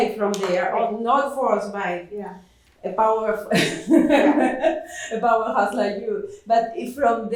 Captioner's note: laughs